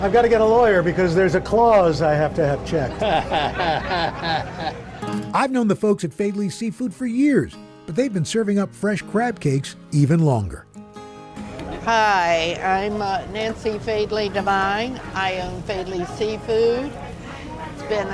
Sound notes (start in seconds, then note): 2.8 chuckles